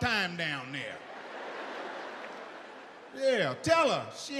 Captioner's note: audience laughs